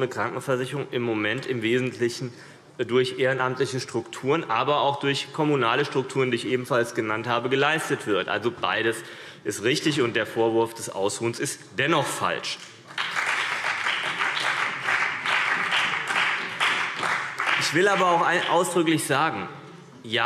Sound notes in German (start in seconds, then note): 12.8 Beifall CDU und BÜNDNIS 90/DIE GRÜNEN